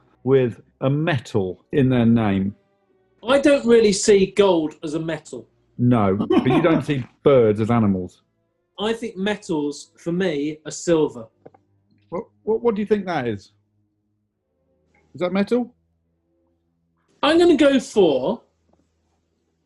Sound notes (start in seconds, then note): 5.9 laughing